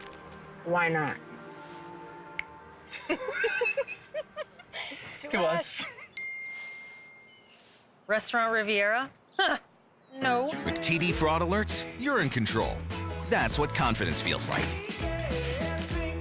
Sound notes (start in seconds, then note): 2.3 snapping fingers; 4.6 laughter; 6.1 chime